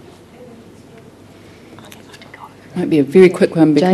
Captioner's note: whispering